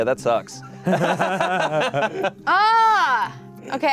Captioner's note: laughs